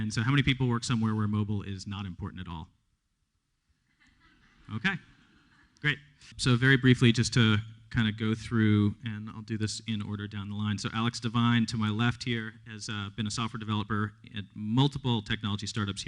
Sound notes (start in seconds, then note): 3.8 laughter